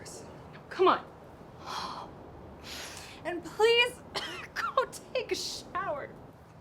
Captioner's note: coughs